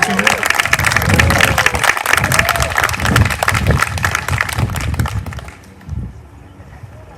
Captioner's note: applause